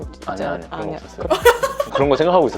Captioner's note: laughing so much today